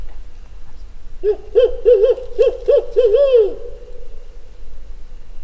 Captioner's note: animal howling